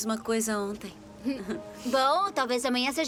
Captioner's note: laughs